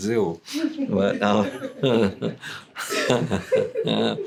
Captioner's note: laughter